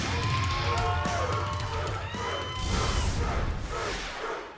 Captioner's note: cheers and applause; fans chanting